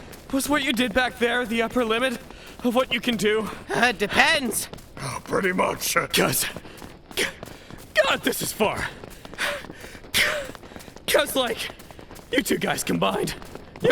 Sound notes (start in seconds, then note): 9.3 panting